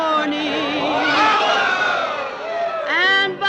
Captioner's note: hooting and cheers